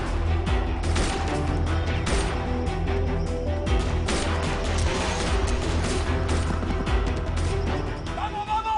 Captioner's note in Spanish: Disparos